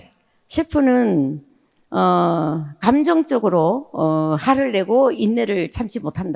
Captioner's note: speaking in foreign language